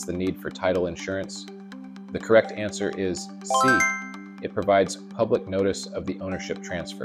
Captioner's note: bell dinging